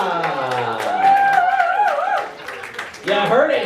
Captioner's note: cheering